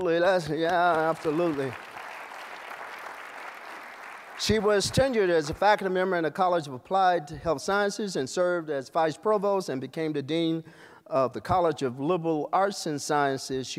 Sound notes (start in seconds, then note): 1.9 applause